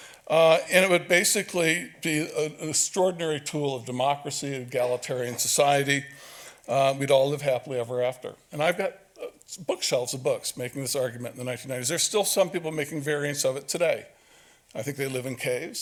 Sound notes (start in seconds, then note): none